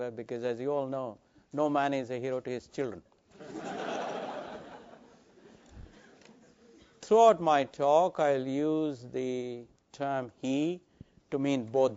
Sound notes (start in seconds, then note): 3.4 laugh